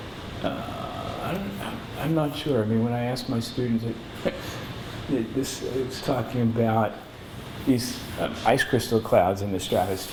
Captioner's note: laughs